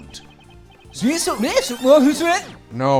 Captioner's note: talking backwards